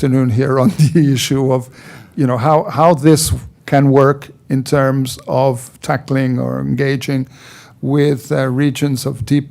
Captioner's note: laughs